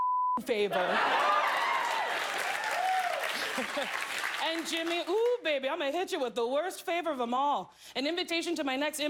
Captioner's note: cheers